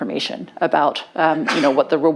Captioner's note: sneezes